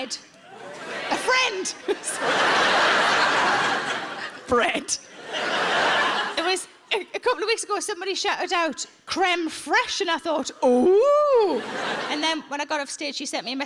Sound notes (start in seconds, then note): 1.7 giggles; 2.8 audience laughs